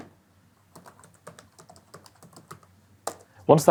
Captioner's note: keyboard typing